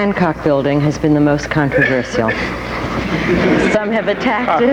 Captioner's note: audience laughing